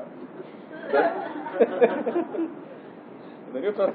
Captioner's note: Gülüşmeler